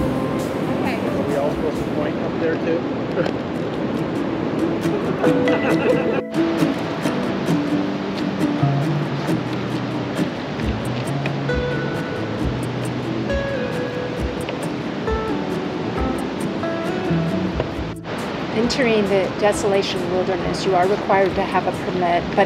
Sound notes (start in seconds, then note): 4.8 laughing